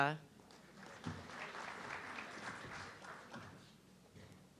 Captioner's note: audience clapping